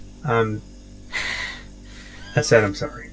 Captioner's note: hitched breathing